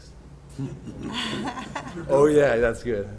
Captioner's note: chuckles